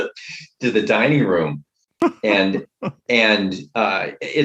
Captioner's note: laughter